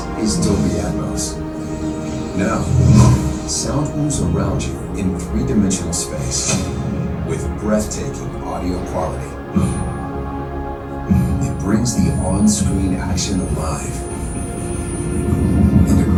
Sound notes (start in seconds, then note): 9.7 light explosions